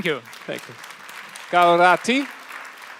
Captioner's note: applause